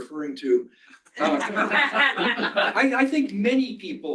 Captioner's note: laughter